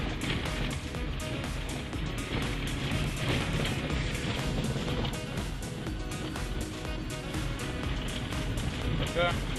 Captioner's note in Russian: слышен стук колес по плохой дороге